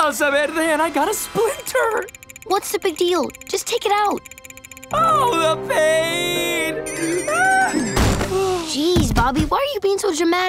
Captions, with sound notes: and I got a splinter. What's the big deal? Just take it out. Oh, the pain! [groaning] Jeez Bobby, why are you being so dramatic?